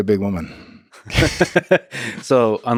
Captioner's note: Lex laughs